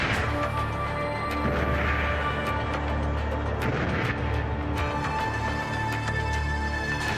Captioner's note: strikes whooshing; strikes whooshing over tense electronic music; ominous and tense electronic music